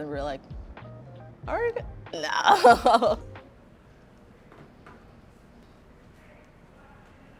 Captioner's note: laughing